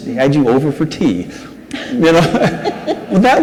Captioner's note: audience laughs